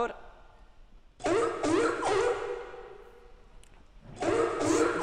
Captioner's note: sea lion barking